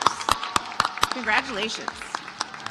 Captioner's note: audience applauds